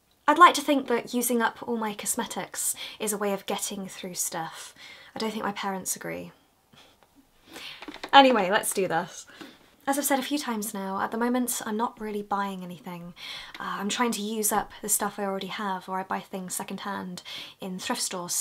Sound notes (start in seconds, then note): 6.8 laughs